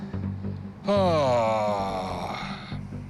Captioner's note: heavy sigh